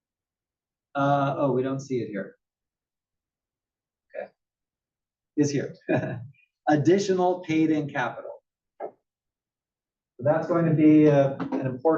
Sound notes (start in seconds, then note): 5.1 laugh